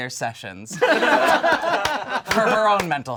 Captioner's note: all laugh